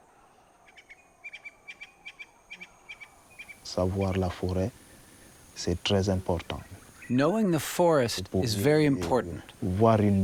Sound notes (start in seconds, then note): 3.4 speaks foreign language